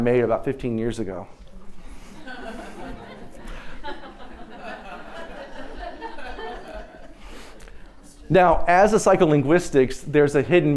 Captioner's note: laughter